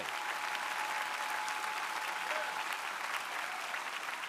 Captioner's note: crowd applauding